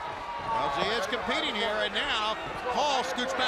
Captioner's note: crowd chatter